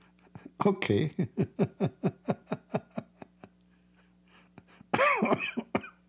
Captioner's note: Ketawa